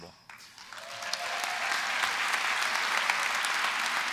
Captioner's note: applause